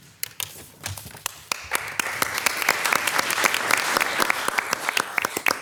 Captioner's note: all applauding